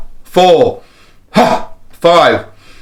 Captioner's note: exhales